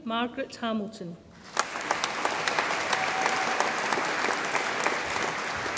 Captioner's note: audience applauds